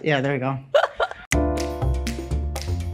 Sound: laughs; snappy music

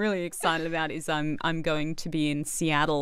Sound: laughs

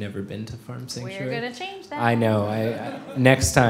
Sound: sing-song

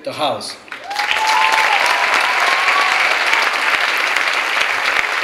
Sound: clapping and cheering

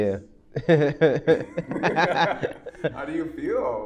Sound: laughs

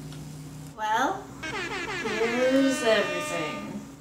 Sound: bull horns blowing

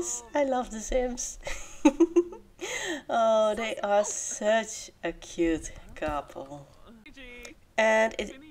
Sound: giggle

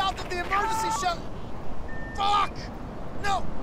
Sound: beeps

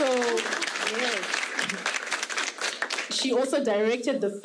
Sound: audience clapping

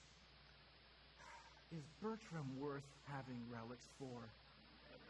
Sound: sighs

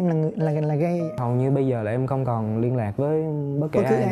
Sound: huu

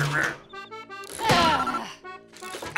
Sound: groaning

